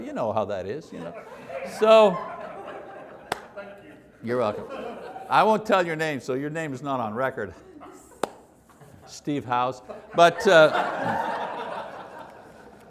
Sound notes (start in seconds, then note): 3.6 laughter continues; 10.2 raucous laughter